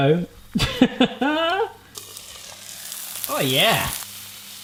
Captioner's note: laughing